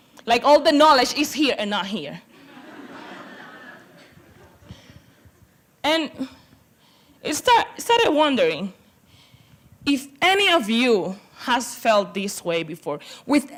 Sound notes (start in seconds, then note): 2.3 laughter